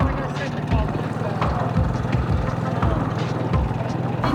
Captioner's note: motor running; gear clicking